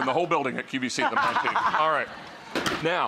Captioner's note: chuckles; laughs